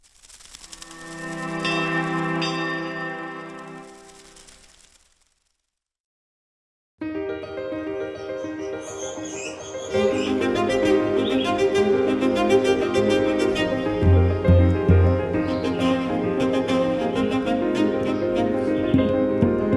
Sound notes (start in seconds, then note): 1.0 gentle music; 7.3 bright orchestral music; 8.4 birds chirping